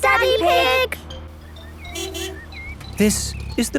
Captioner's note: honking